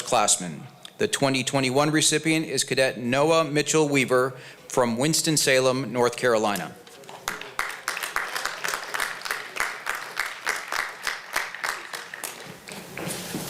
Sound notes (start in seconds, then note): 7.2 applause